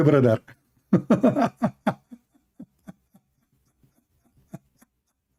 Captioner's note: Ketawa